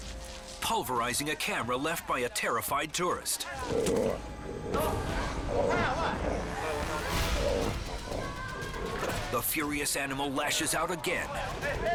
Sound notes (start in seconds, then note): 3.5 orangutan snarling; 5.0 onlookers shouting indistinctly